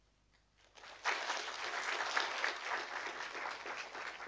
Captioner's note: audience applauding